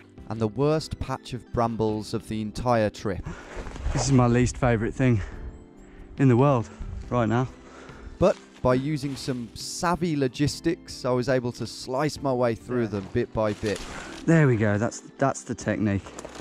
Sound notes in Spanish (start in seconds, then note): none